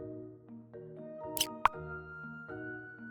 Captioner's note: click sound; calm music